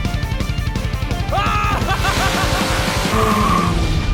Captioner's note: rock music; laughing manically; tires squealing